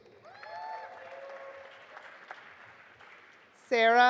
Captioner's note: audience applauding